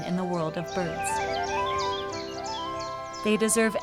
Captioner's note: bird chirping